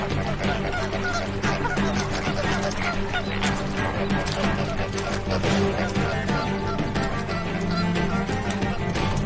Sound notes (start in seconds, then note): 0.0 squawking; 2.3 splashing